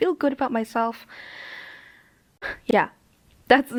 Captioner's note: inhale